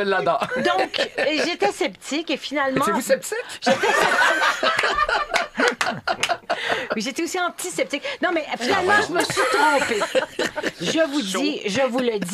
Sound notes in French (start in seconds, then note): 3.6 rires